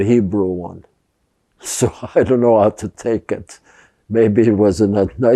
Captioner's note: laughing